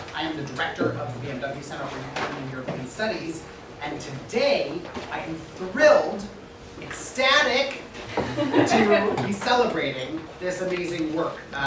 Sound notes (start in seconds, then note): 8.1 attendees laughs